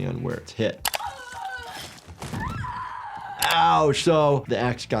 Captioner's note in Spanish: Victoria gritando